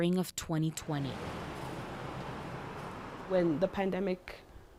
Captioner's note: truck whooshing